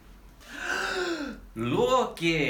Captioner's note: gasp